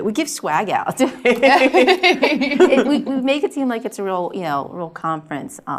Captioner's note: laugh